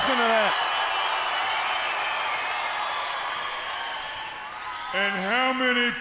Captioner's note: crowd cheering